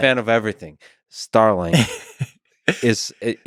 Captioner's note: Tim laughs